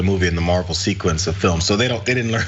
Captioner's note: laugh